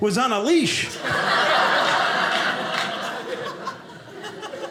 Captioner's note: audience laughing